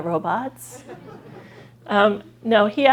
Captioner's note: laughter